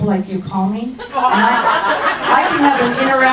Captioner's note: crowd laughs